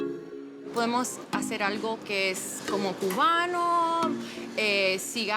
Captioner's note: speaks Spanish